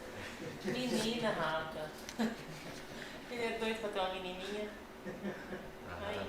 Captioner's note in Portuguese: Risos